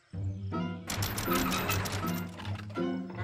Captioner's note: pulley creaking